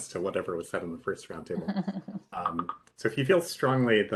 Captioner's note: laughing